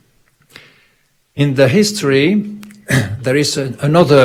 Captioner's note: clears throat